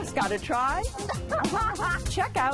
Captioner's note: laughs